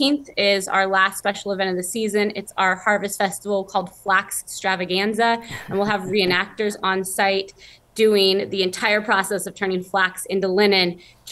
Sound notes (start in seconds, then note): 5.4 chuckling